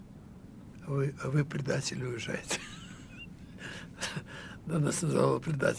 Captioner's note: laughing